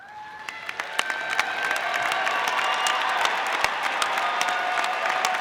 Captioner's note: audience applauding